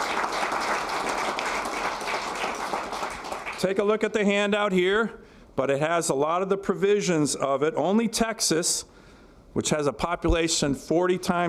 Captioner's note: applause